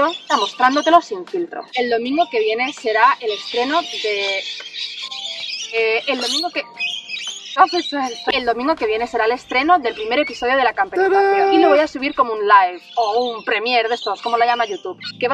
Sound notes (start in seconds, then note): 3.0 parrots interrupting